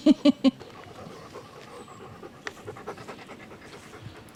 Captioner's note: laughs; panting